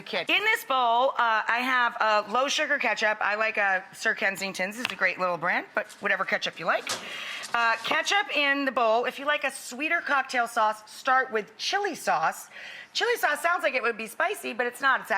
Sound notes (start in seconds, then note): none